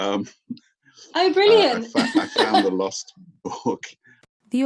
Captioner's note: laughing